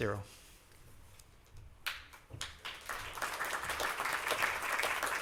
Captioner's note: applause